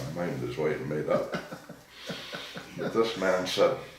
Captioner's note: laughing